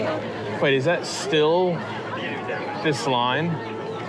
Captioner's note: none